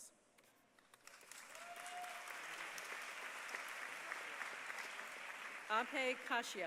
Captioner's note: applause